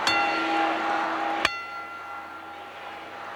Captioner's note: bell rings